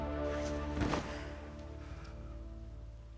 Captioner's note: sighs